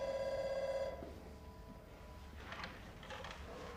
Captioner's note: phone ringing